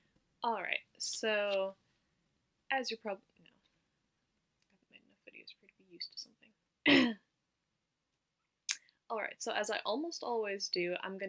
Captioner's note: clears throat